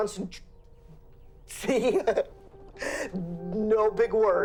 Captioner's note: laughs